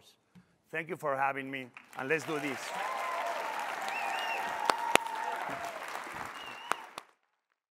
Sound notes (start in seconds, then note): 1.7 applause